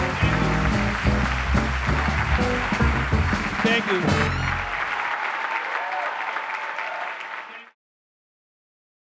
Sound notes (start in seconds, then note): 0.0 jazz music; 5.3 audience applauding